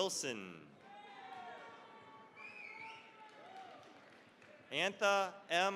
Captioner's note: cheering, applause